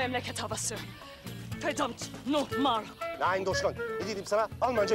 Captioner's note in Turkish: Almanca konuşma